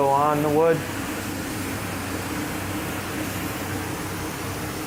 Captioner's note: sprayer spraying